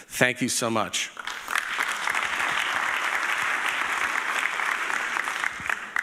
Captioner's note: audience applauding